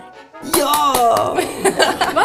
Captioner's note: applause